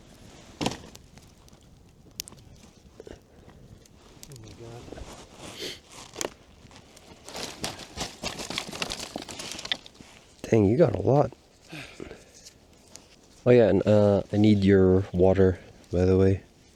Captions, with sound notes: "Oh my god" *branches clattering* "Dang you got a lot" *sighs* "Oh yeah and uh, I need your water by the way"